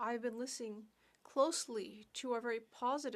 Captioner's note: speaking French